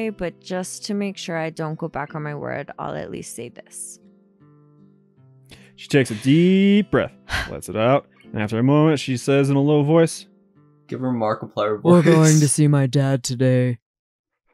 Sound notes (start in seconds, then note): 7.8 takes a breath